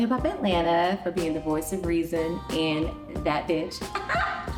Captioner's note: giggles